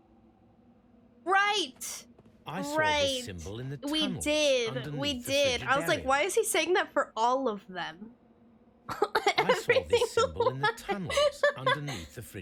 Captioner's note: laughs